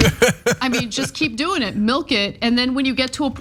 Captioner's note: laugh